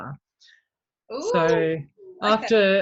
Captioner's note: exclaims